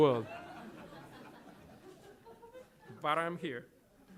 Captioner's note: laughter